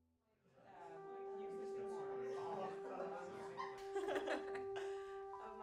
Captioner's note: crowd talking and laughing